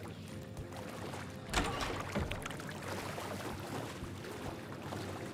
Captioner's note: water splashing